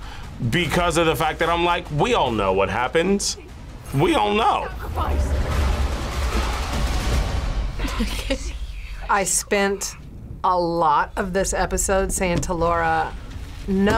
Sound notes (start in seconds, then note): 5.7 tense music; 7.8 laughs